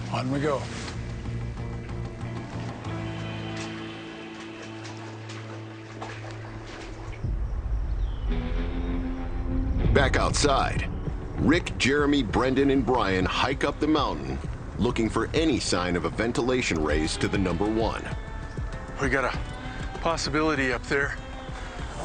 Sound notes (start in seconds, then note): 2.5 sloshing water; 8.0 birds chirping